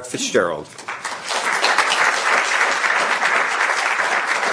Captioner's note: applause